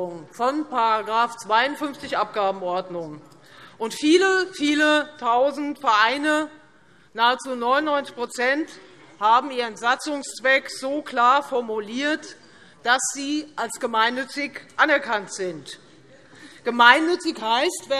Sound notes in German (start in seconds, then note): none